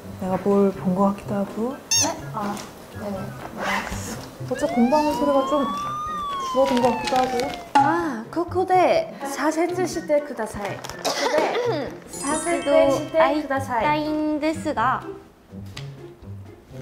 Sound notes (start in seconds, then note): 11.0 ahem